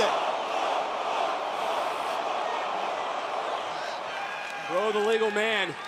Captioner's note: fans chanting